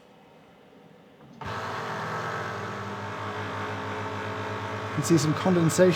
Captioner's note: vacuum chamber whirring